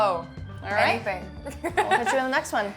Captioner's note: laughs